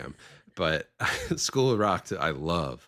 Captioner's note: chuckling